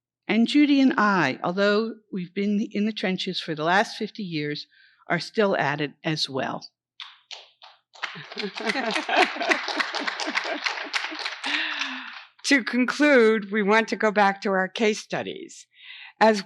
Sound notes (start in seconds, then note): 7.9 audience applauds; 8.1 women laugh